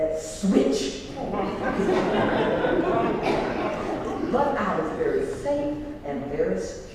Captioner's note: laugh